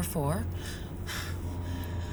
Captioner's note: sighs